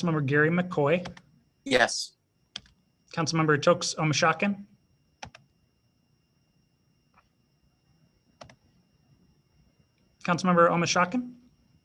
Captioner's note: silence